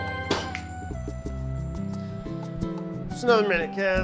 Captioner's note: snaps